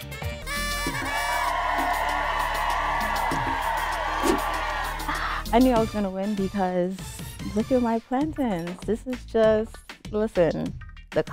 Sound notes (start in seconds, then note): 0.5 crowd cheering